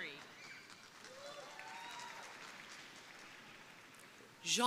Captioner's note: crowd applauding